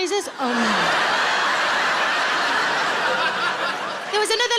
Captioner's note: audience laughs